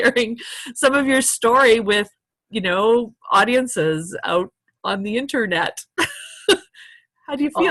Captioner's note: laughter